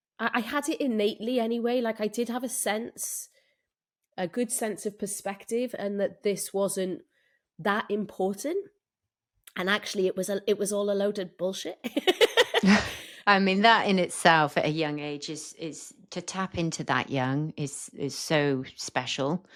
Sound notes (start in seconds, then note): 11.9 laughs